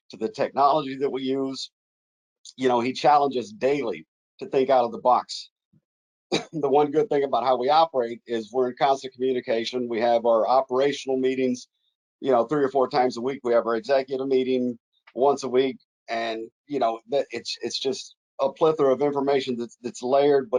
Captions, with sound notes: to the technology that we use, he challenges daily to think out of the box. (coughs) But one good thing about how we operate is we're in constant communication, we have our operational meetings three or four times a week, we have our executive meeting once a week. And it's just a plethora of information that it's layered,